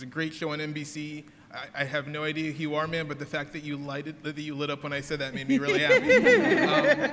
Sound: laughter

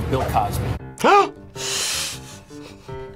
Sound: React laughs; gasps; both laugh

